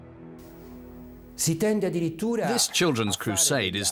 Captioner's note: speaking Italian